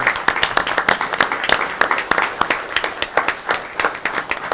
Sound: audience clapping

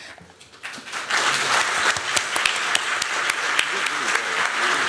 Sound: applause

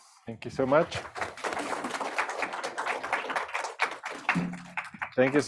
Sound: applause

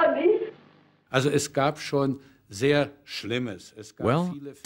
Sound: speaking German

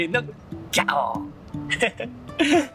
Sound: lion roar in Japanese

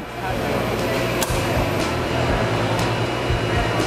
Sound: machine humming

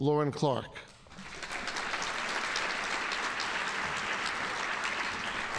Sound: audience applauding

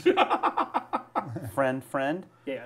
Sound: laughing

